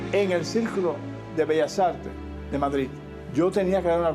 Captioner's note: speaking Spanish